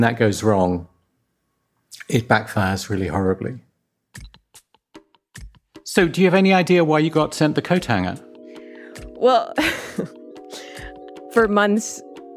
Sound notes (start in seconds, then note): 10.1 laughs